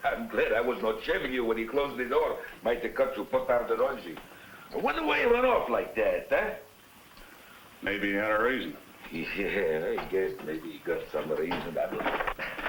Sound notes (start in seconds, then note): 3.9 spanish